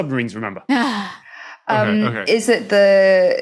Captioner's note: sighs